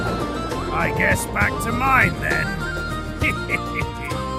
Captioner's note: laughing